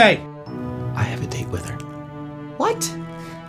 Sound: Leo whispers

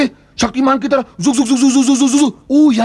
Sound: imitates whirring sound

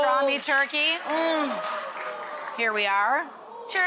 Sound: audience oohs

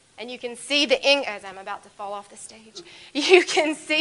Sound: laughs

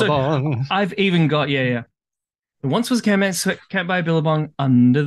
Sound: singing; laughs; singing

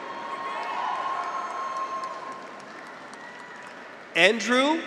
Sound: graduates cheer; audience applauds

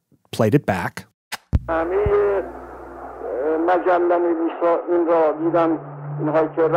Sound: Speaking Farsi

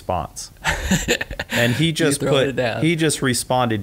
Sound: laughs

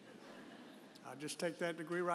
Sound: audience chuckles

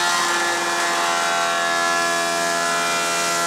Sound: saw noise

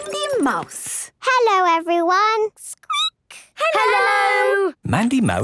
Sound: squeaking

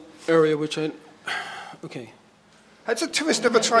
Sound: sighs

